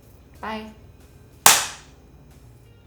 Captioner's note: clap